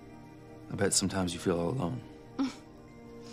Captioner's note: laughs